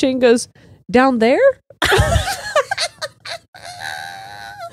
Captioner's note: all laughing